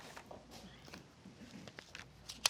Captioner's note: none